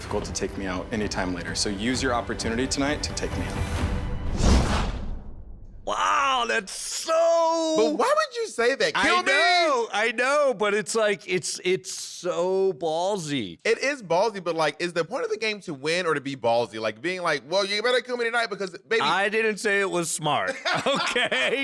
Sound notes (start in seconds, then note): 5.9 dramatic music; 5.9 whoosh